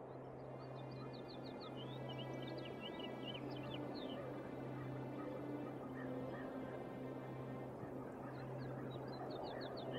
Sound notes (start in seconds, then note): 0.7 birds chirping